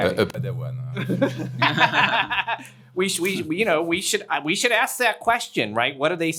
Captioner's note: laughs